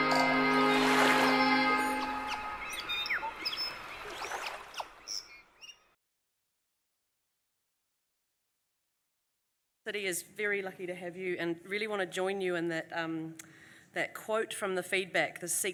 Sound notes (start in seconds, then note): 1.3 bird chirping; 3.8 waves crashing